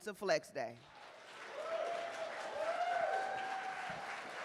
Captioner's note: cheers and applause